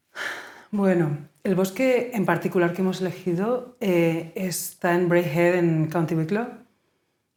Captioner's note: sigh